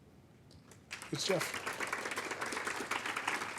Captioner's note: audience applaud